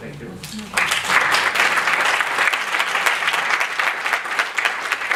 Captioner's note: audience clapping